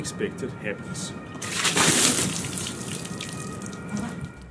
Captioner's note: water splash